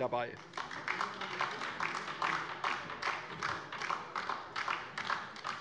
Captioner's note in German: Beifall DIE LINKE